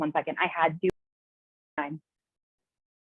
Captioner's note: audio cuts out